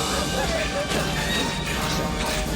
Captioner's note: panting